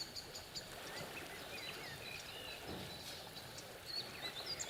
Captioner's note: water rushing